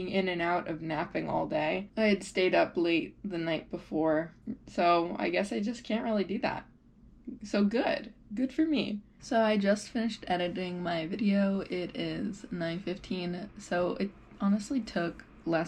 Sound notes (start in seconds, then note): none